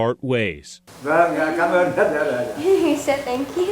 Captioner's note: man speaking Vietnamese